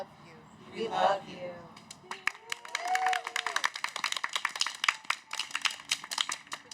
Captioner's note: cheers